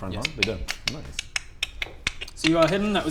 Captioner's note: tongue clicks